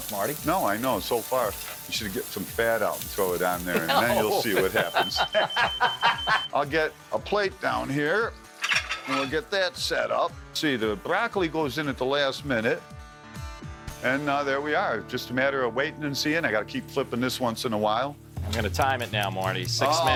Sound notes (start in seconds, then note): 4.7 beeping alarm; 5.4 both laughing